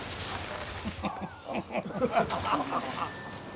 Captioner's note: crew chuckling